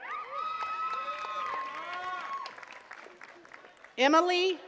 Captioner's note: attendees cheering and clapping